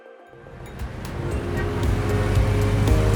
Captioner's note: traffic noise